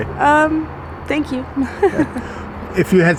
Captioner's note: giggles